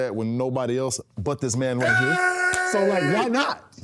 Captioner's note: Cody screaming